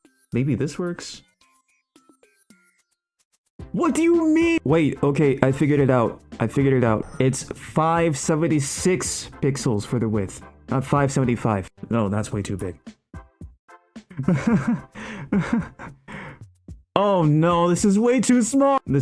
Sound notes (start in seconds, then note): 14.1 mischievous snickering